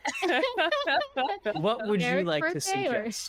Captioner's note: all laughing